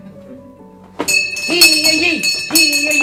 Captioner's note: bell ringing